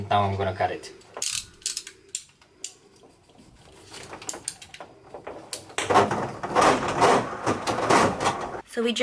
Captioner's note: construction sound